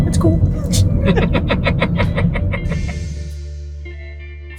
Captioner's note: chuckling; chill music